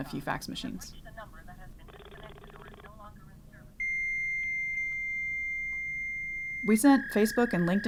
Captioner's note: fax squeal